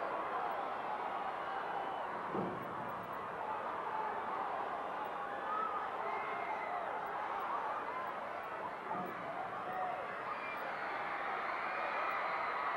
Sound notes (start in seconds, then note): 8.0 audience cheering continues